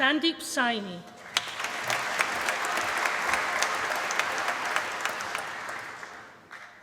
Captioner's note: applause